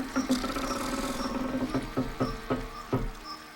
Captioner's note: door creaks